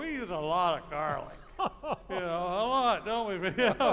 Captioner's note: laughing